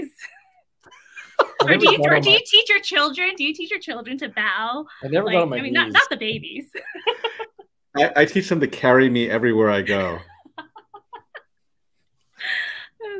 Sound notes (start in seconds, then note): 0.9 laugh; 6.6 laugh; 9.8 laugh